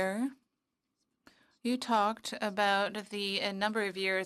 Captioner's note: speaking French